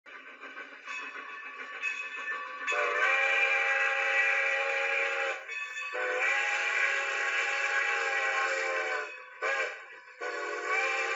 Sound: train whistle blowing

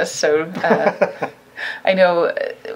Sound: laughing

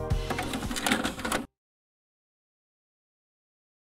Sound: plastic rattling

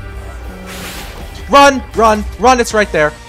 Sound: explosions

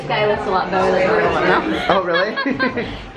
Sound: laughing

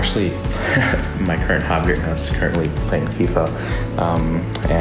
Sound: laughs

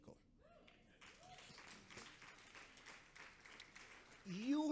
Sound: audience applauds

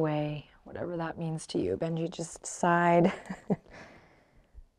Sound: laughs

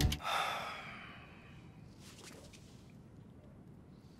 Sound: Reid sighs

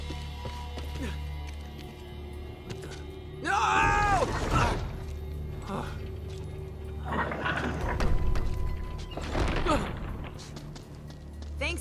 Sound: screams

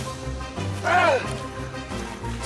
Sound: Putol groans

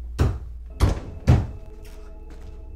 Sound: thuds

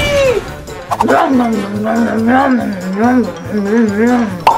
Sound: munching noise

